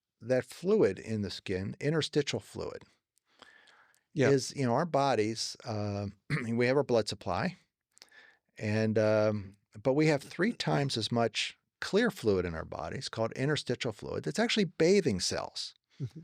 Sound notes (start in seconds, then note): 6.2 clears throat